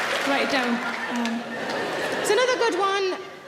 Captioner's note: audience laughing